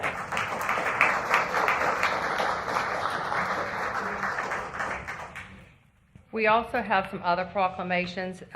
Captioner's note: applause